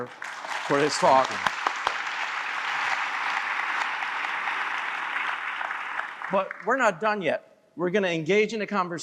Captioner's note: applause